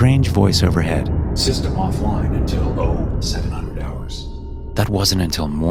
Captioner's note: robotic Voice